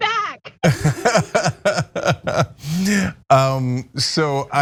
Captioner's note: laugh